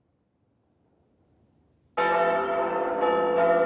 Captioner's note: bell rings